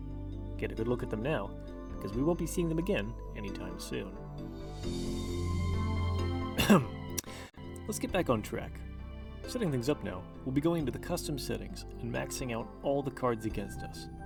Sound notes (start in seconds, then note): 6.5 inhales; 6.6 clears throat